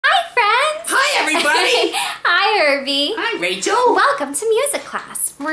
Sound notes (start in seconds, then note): 0.9 laughs